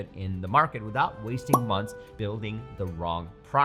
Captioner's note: checklist pops